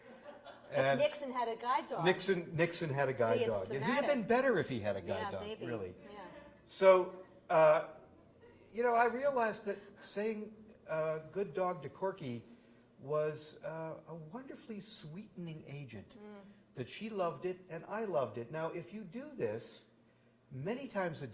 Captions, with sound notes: [Laughter] >> Like if Nixon had a guide See it's thematic dog. >> He would have been better if [soft giggles] he had a guide dog, really. So, I realized that saying good dog to Corky was a wonderfully sweetening agent that she loved it, and I loved it. Now, if you do this, many times